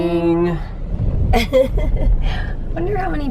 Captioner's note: laughing